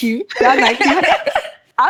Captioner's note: laughing